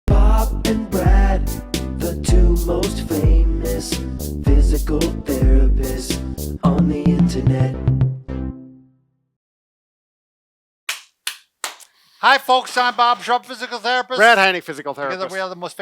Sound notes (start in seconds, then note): 11.6 clapping